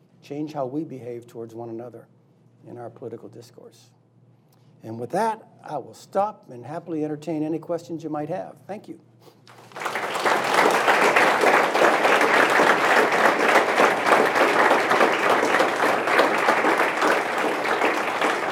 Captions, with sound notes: Change how we behave towards one another in our political discourse. And with that, I will stop and happily entertain any questions you might have. Thank you. (applause)